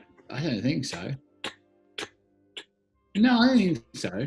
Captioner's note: ticks